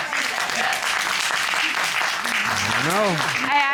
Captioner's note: applause